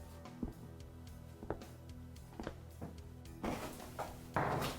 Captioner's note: high heel footsteps draw nearer; louder high heel steps reach top of wooden stairs